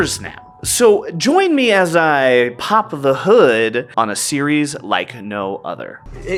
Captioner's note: some kind of sound effect for the pun